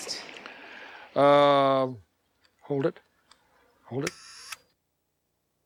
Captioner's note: camera clicks